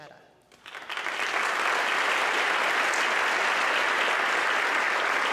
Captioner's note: audience clapping